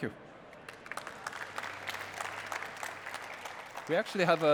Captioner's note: applause